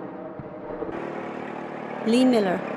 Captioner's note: engine rumbling